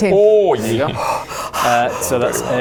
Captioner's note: gasps of excitement unknown